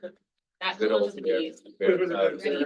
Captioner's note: people chattering